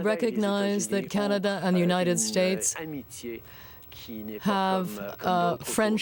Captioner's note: speaking French